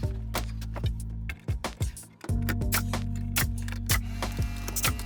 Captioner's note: gentle music; nails clicking